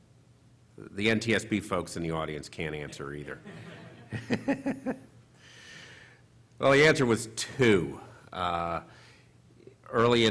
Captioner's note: chuckling